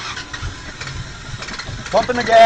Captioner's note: El carro traa de arrancar